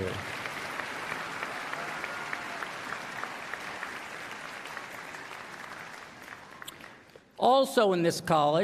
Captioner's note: applause